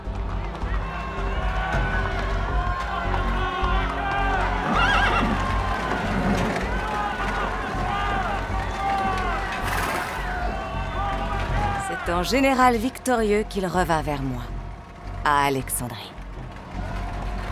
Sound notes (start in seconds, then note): 4.6 horse whinnies; 4.7 crowd cheering